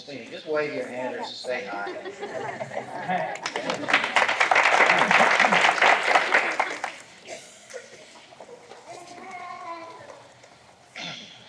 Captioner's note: laughter